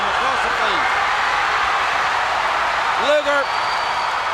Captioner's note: crowd cheers